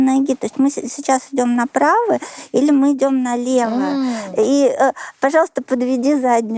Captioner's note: beating